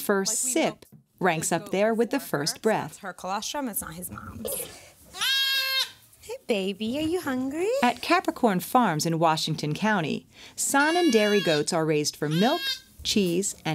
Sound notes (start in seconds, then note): 5.1 goat cries out